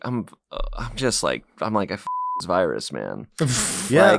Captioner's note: beep